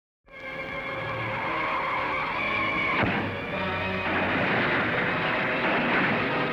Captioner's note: tense music; tires screeching